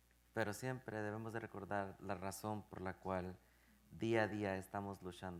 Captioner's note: speaking in Spanish